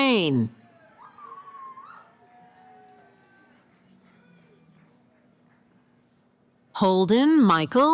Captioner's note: cheering